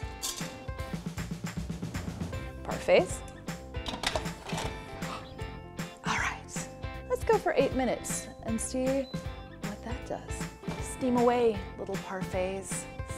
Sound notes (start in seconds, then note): 4.9 gasping